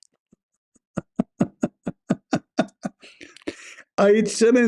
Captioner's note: Ketawa